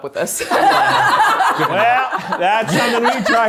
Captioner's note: everyone laughs